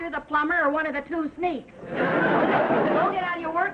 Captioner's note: audience laughing